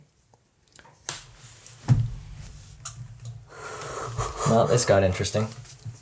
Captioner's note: laughing